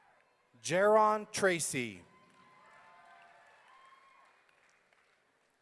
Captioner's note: audience cheering